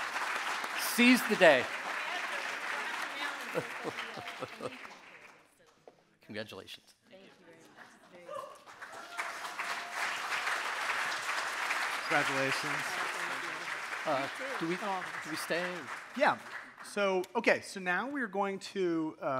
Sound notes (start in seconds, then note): 2.6 faintly speaking; 8.2 audience applauding